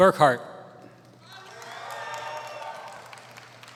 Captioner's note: applause